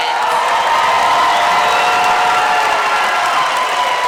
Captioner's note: audience cheers